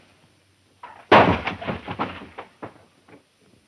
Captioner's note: crash